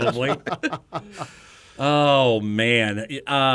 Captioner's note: men laugh